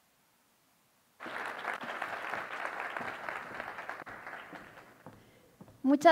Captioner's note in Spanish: aplausos